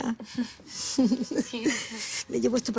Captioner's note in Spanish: Risas